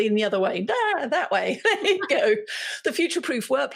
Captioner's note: laughing